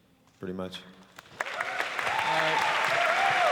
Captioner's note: applause